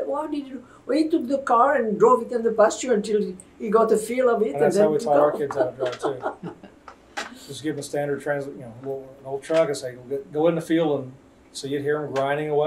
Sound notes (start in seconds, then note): 4.8 laughs; 8.6 laughter